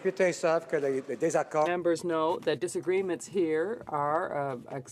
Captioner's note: some Applause